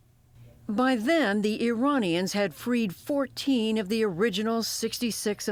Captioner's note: voice-over